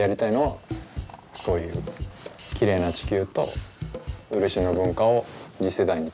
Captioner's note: continues speaking Japanese